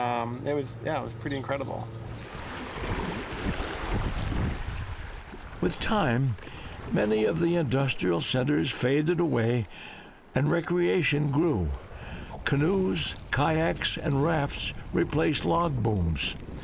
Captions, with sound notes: It was-- yeah, it was pretty incredible. [splashing] With time, many of the Industrial centers faded away, and recreation grew. Canoes, kayaks, and rafts replaced log booms.